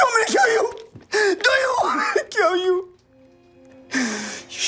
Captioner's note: he sobs; sad string music